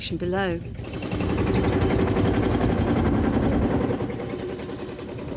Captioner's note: tractor engines